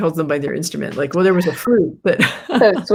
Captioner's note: laughs